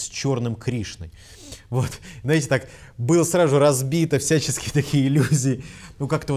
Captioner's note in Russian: смеется